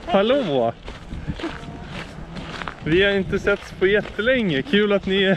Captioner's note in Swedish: skrattar